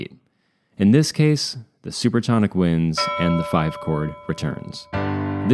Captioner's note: bell; chord